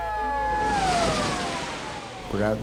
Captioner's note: water splashes